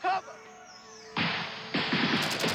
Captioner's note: gunfire